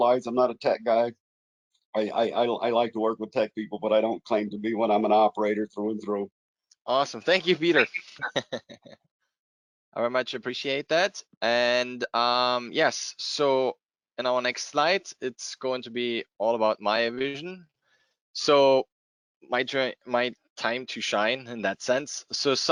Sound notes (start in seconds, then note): 7.4 chuckles